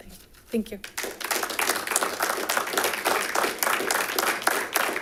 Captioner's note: audience clapping